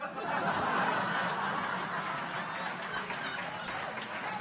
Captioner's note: audience laughing